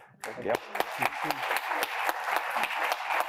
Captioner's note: applause